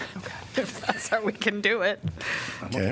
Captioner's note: laughter